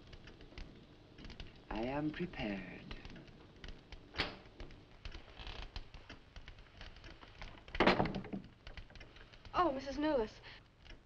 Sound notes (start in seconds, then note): 4.5 door clicking